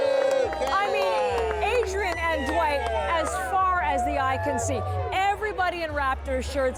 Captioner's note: cheers